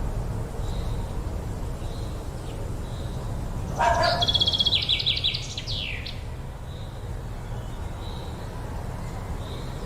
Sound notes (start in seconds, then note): 2.0 dog barking; 5.8 birds chirping